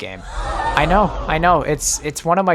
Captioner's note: audience gasps